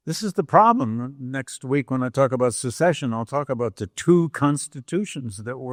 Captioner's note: none